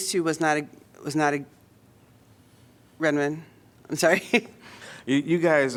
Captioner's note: laughter